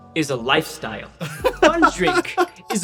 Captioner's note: laughs